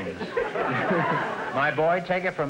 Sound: audience laughter

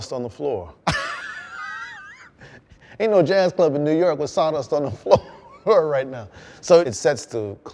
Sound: laughter

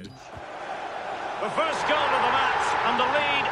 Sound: crowd roars

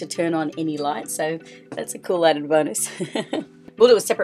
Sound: laughter

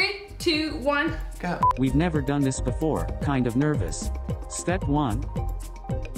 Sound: computer voice

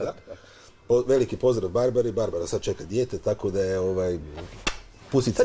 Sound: kiss

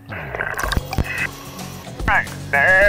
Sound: water gurgling

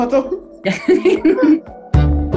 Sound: chuckles; bright upbeat music

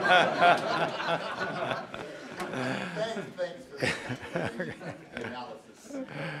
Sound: laugh

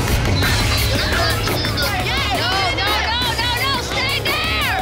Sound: crowd clamoring

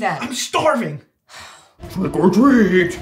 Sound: sighs

